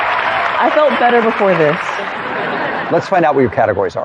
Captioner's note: laughter